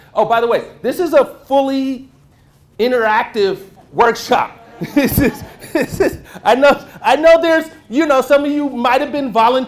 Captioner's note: laughter